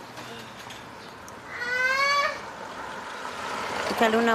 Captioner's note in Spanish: grita